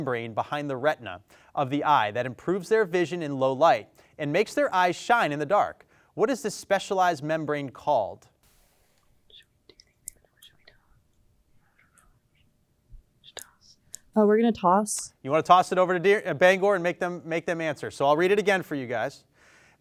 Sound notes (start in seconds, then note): 8.7 team whispers